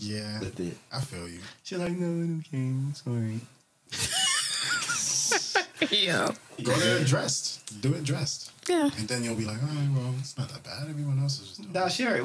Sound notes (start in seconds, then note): 4.0 laughs